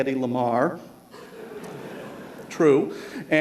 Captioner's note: laughter